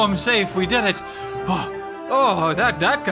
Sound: panting

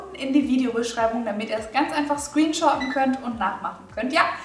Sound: microwave beeps

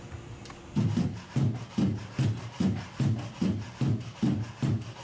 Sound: footsteps thudding

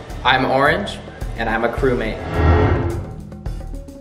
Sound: none

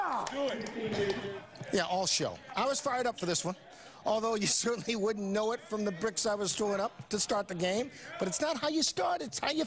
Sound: cheering

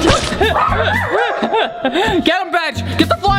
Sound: laughing

